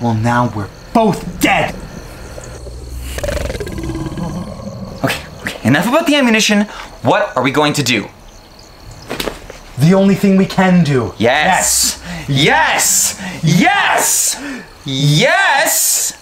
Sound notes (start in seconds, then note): 1.0 creature growls